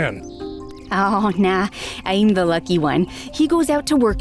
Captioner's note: chuckling